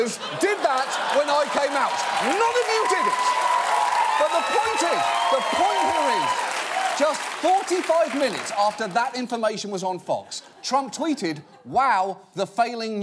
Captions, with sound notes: None of you fuckers did that -when I came out. -(AUDIENCE CHEERS LOUDLY) None of you did it! But, the point is, the point here is, just 45 minutes after that information was on Fox, Trump tweeted...